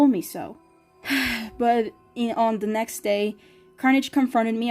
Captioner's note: sigh